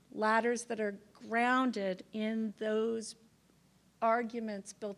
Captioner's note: none